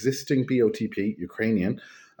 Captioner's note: Ukrainian